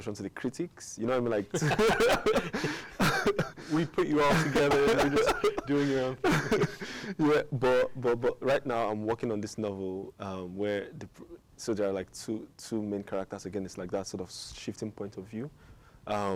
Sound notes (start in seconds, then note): 1.5 both laugh